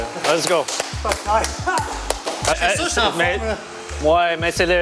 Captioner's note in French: applaudissements